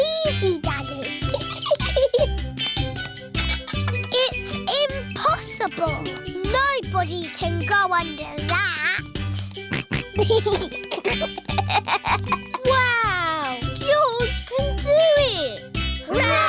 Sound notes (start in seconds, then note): 1.1 giggles; 9.4 snorts and giggles